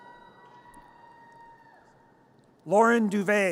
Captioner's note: audience cheers